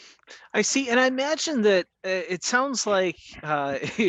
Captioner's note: chuckles